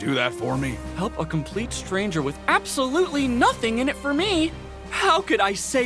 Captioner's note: sarcastic